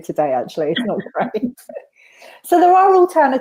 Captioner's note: laughs